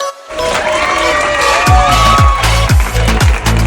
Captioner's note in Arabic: موسيقى مفعمة بالحيوية; هتافات الجماهير